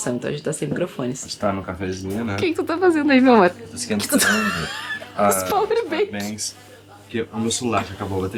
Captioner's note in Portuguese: risadas